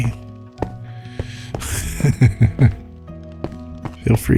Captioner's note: laughs